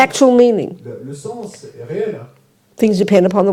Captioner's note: French